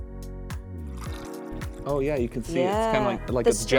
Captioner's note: liquid pouring